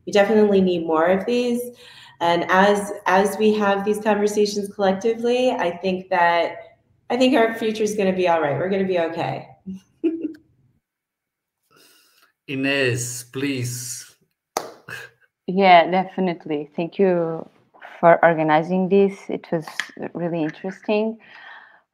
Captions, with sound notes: We definitely need more of these. And as we have these conversations collectively, I think our future's gonna be all right. We're gonna be okay. (chuckles) - Ines, please. - Yeah, definitely. Thank you for organising this. It was really interesting.